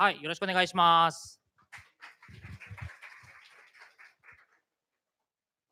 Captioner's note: applause